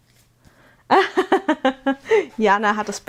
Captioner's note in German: gelächter